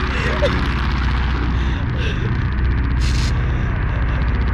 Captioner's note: crying; static